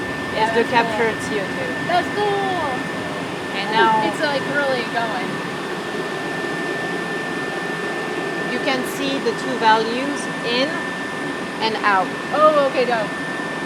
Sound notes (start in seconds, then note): 4.9 machine whirring